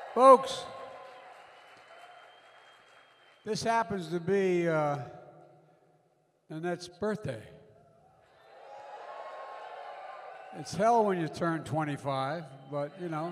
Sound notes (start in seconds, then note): 9.0 applause